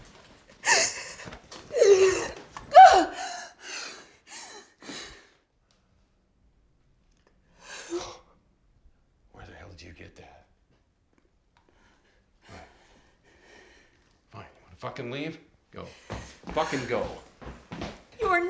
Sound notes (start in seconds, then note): 1.0 Carol crying; 2.7 Carol grunting and panting